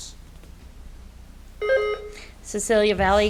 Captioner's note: buzzer beeps